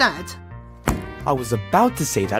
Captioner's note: book slamming